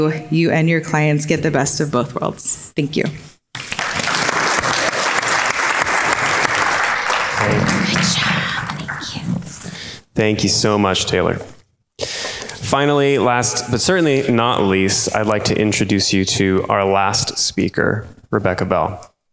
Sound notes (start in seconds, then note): 3.5 crowd claps and cheers; 7.5 whispers